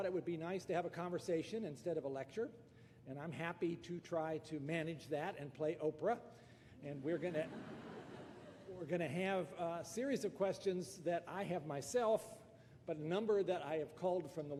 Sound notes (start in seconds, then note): 6.9 laughter